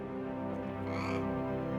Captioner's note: parrot squawks